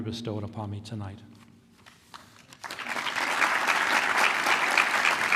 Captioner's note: applause